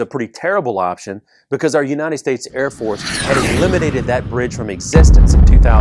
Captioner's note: jet noise...explosion!!!